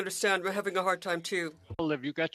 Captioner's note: speaking French